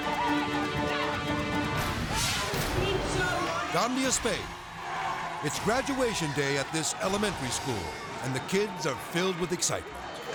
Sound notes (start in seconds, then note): 2.0 children cheering; 2.0 graphics whoosh; 10.1 children cheering